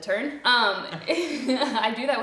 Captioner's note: both laugh